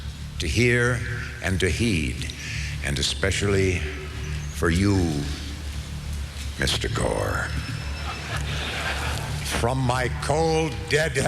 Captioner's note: cheers, applause